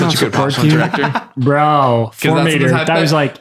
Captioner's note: laughter